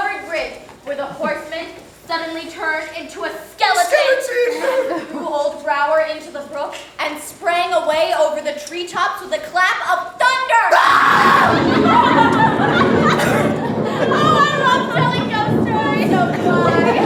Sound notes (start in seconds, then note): 10.6 scream; 11.0 thunder